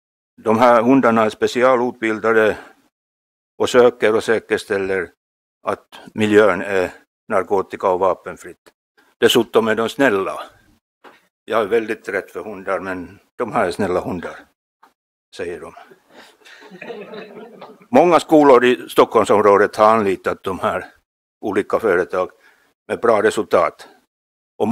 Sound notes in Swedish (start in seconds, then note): 16.2 Skratt